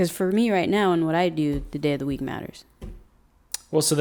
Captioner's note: none